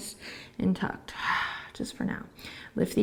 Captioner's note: exhaling